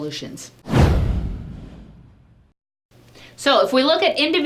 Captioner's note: text whooshing